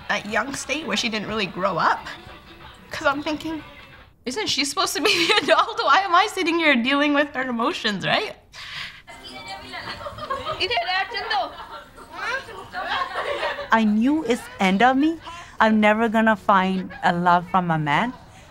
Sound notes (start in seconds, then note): 9.2 background chatter, - indistinct